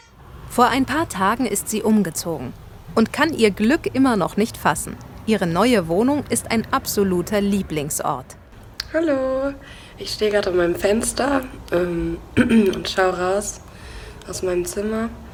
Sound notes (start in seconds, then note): 12.4 clearing throat